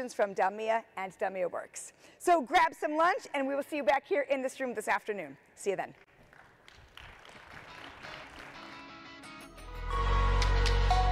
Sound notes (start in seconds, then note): 6.1 audience applauding; 8.1 upbeat music